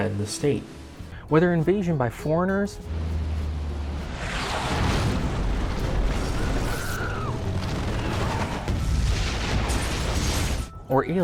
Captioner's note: shooting, screaming, explosion